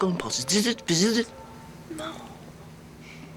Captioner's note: buzzes